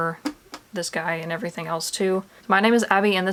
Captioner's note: smack